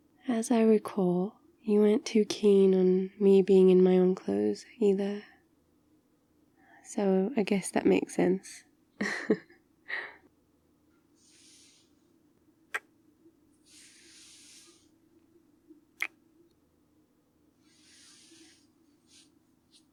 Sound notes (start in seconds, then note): 10.1 laughs; 12.7 kiss